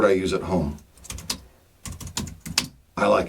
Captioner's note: typing